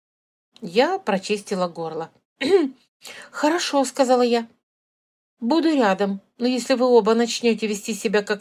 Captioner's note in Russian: откашливается